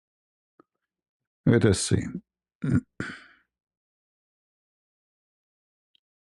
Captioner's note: berdehem